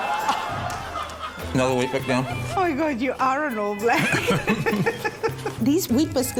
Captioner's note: both laugh